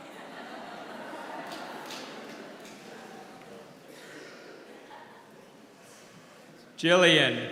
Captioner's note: applause; laugh